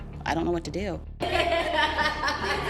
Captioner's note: laughs